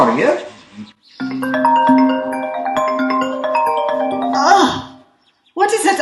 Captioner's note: ringtone